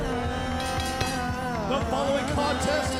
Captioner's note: bell ringing